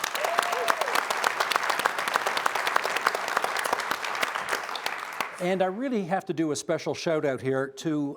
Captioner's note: applause